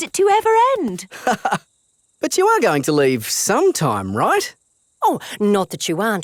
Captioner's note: laughs